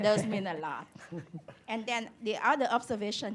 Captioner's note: laughter